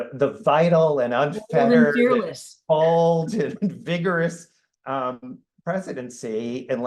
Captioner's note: laughs